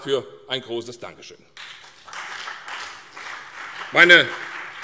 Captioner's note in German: Beifall CDU, BÜNDNIS 90/DIE GRÜNEN und vereinzelt Freie Demokraten